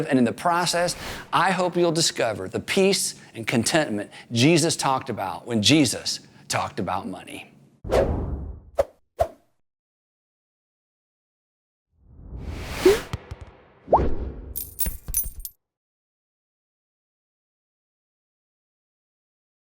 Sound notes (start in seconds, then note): 7.9 swooshing; 14.5 coins jangling